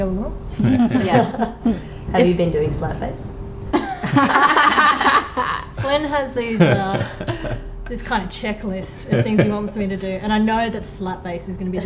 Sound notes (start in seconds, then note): 0.5 all chuckle; 3.7 others laugh